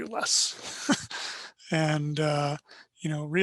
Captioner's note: laughs